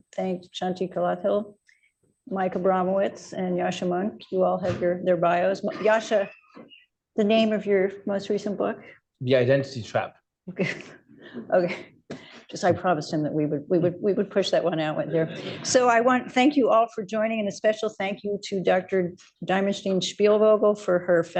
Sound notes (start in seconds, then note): 10.5 laughter; 14.9 laughter